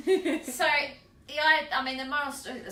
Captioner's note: laughs